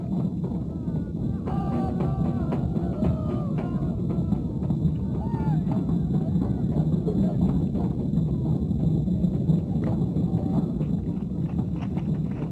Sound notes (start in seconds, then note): 1.7 distant shouting